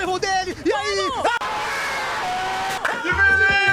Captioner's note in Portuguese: gritos da torcida